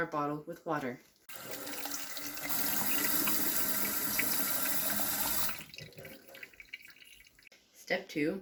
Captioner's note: water Noises